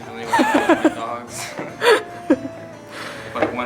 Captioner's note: laughing